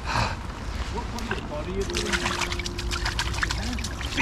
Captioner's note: splashing